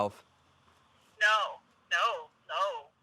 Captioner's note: on phone